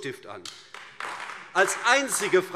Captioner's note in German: Beifall AfD